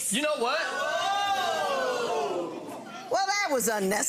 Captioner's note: audience oohing